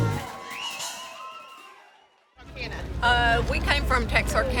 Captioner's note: crowd cheering